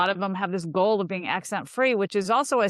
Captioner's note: none